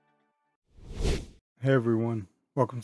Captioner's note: woosh!